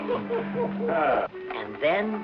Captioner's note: laughing